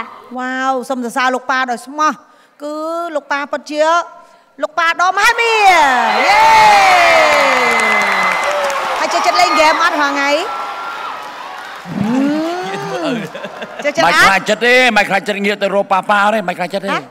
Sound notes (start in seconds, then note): 5.8 cheer and applause; 12.0 laughter